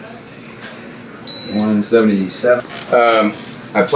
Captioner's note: beeping